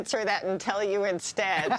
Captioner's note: laughter